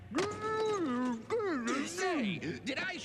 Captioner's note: muffled protests